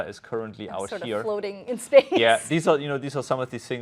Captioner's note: laughs